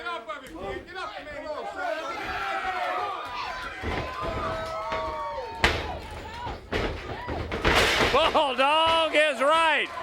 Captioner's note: crowd chatter